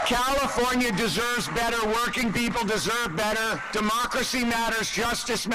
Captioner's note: applause